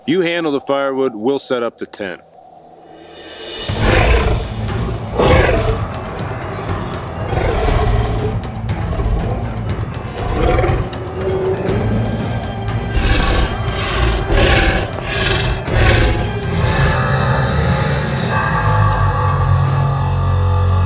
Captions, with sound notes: - You handle the firewood, we'll set up the tent. (snarling) (dramatic music) (eerie music)